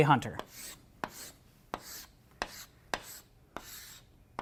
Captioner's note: chalk scratching